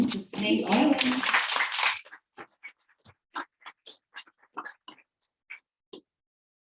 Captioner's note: audience applauding